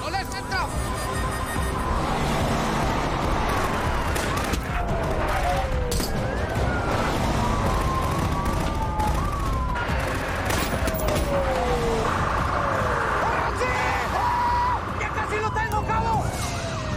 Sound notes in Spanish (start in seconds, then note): 5.1 Sonido de las sirenas